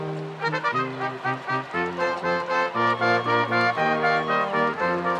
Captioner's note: spectators cheering